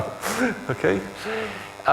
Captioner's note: chuckles